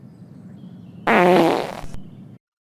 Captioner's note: Norman farts